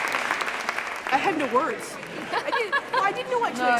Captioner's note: laughs